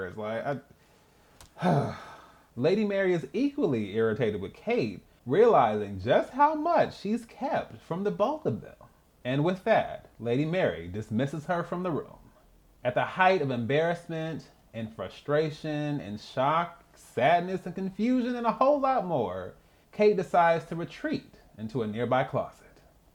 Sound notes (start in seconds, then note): 1.5 sigh